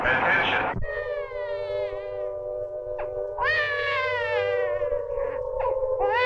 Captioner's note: sirens blaring; baby crying